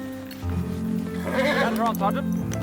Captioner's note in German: Pferd wiehert